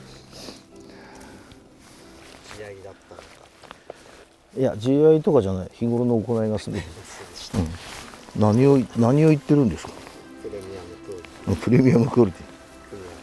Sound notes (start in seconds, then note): 11.4 laughs